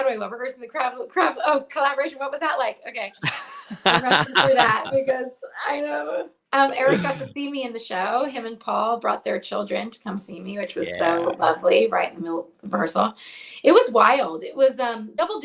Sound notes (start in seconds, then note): 3.2 laughs